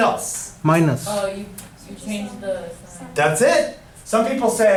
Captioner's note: voiceover